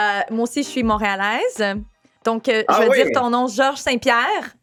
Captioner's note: speaking in foreign language